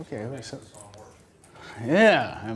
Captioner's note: voiceover